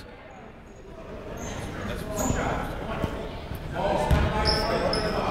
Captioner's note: people talking in the crowd